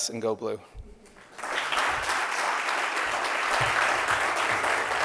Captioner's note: audience claps